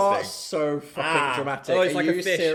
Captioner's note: gagging